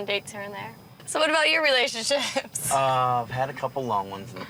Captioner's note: laughs